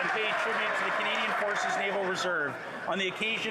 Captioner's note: yelling